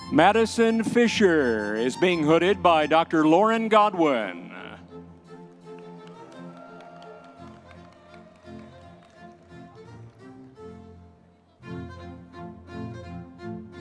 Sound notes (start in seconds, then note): 6.1 audience members cheering; 9.1 classical orchestral music continues